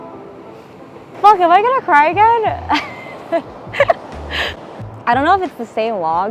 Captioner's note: laughing joyfully